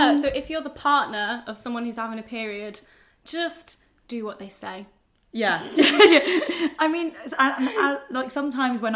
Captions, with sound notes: - Yeah, so if you're the partner of someone who's having a period, just do what they say. - Yeah. (laughs) I mean, like, sometimes,